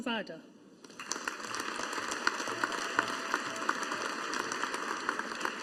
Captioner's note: audience applauding